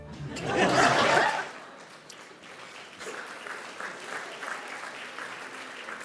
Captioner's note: audience applauding and laughing